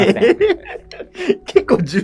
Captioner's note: laughing